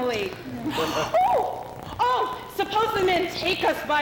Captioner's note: gasp